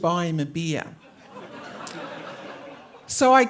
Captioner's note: audience laughing